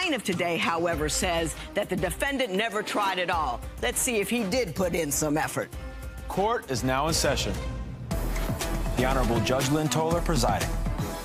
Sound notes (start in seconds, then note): none